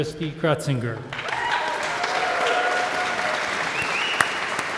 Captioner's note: audience applauds